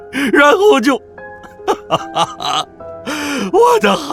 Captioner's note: sobbing